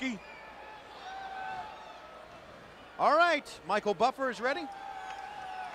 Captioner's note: crowd chatter